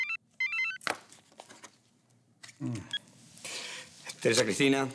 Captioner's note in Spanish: Suena el celular